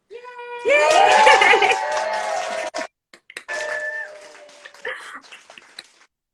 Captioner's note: all cheer; laughs